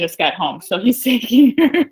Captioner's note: laughs